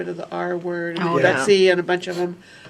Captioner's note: multiple voices